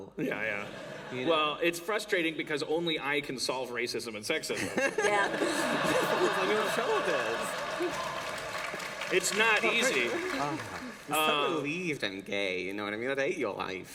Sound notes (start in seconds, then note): 4.5 laughter; 7.6 applause